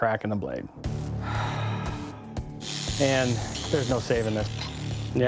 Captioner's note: sigh